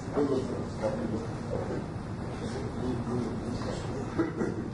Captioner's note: overlapping chatter